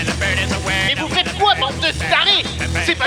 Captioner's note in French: Voix de l'Homme-Mystère dans un haut parleur